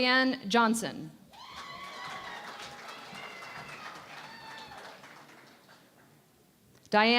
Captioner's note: cheering and Applause